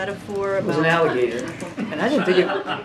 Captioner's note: laughter